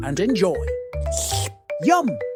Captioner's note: slurp